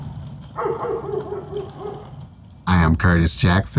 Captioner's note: dogs barking